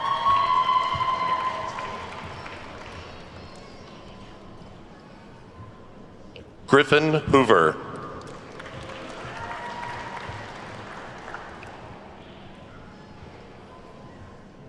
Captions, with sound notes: (attendees whooping and clapping) Griffin Hoover. (attendees clapping)